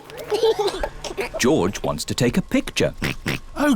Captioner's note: giggles; oinks